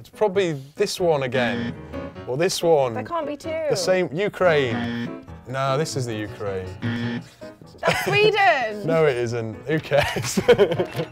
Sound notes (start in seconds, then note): 1.4 alarm; 4.6 alarm; 6.8 alarm